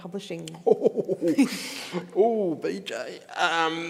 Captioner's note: chuckles